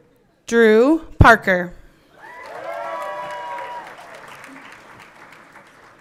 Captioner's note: everyone cheering